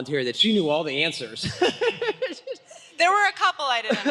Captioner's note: laughter